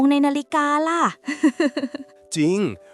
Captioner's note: chuckles